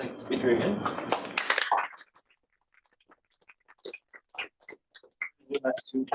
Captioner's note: applause